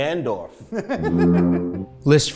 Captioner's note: laughs